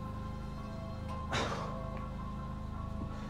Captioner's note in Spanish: Gemidos